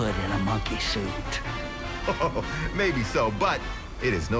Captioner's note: chuckles